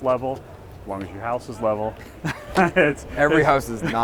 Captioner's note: laughs